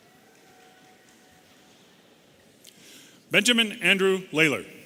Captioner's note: audience cheering